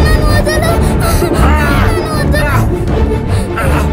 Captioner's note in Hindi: कराहते हुए